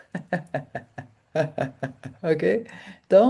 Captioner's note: laughter